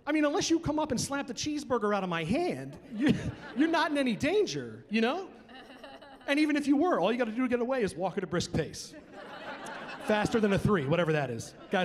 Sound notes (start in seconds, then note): 2.9 chuckling; 8.9 chuckling